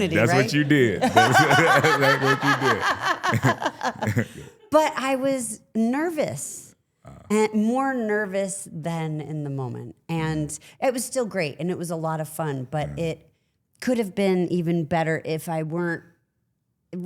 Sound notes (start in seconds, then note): 0.9 Stephanie laughing; 3.4 Trick chuckling